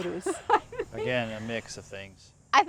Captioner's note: laughing